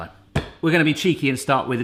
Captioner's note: slams hands on counter